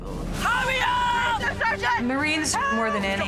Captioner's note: person shouting